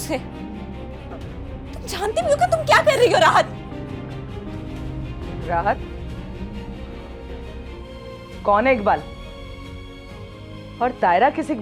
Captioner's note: laugh